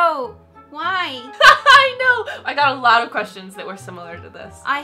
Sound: laughing

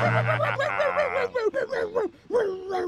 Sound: barking slows

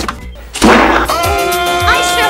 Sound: 𝐒𝐏𝐋𝐔𝐓

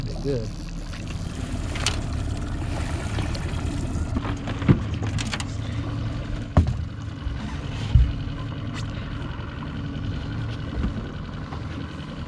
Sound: boat engine idling

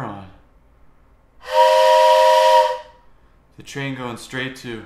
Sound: train horn noise

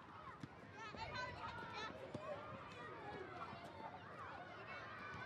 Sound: children playing

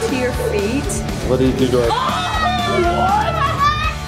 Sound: everyone screams

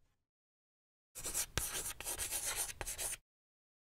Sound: chalk scratching

